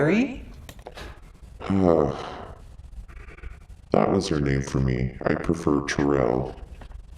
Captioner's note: sighs